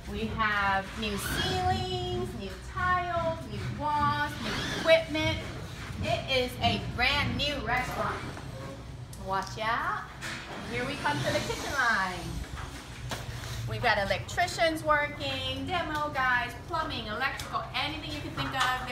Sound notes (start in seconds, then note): 10.6 drilling